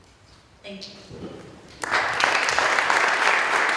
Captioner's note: applause